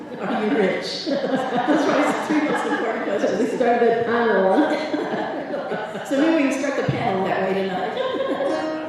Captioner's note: laughter